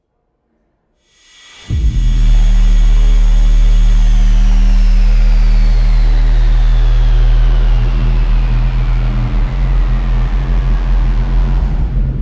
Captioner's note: spaceship landing